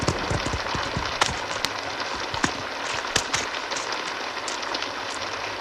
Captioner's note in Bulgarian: аплодисменти